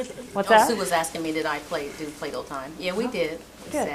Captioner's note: voiceover